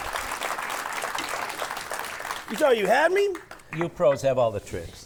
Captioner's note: audience applauding